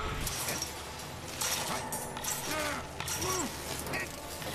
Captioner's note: grunts and groans